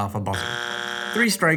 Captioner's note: buzzer sound